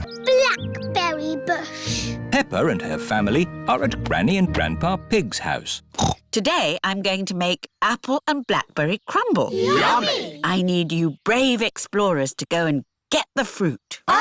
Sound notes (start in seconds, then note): 5.9 snorts